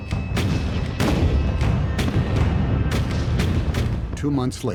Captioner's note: cannons blasting